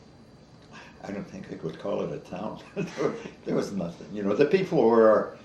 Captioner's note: chuckles